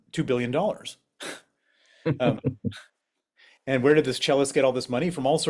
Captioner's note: laugh